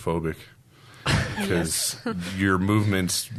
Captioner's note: all laughing